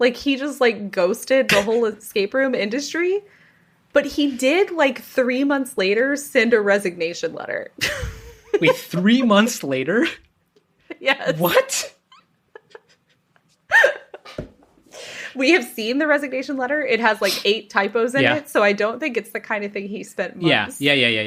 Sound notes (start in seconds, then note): 12.5 laughs